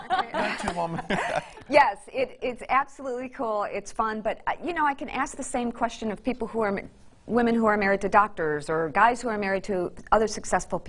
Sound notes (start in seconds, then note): 0.0 chuckles; 0.0 laughs